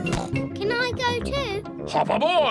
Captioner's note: snorts